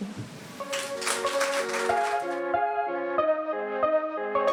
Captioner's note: audience applauding